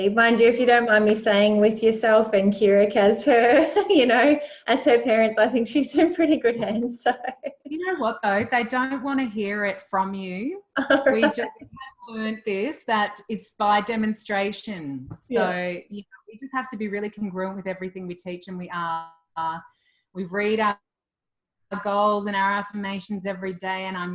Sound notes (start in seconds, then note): 6.0 laughs; 10.8 laughs